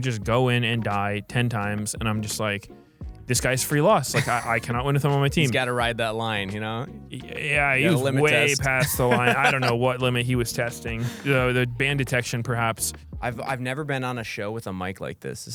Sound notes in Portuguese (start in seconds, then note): 4.1 risos; 8.3 risos